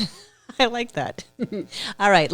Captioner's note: laughing